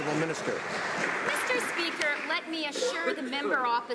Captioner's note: some Applause